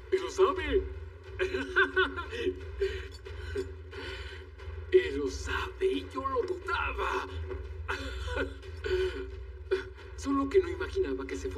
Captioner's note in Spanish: Ríe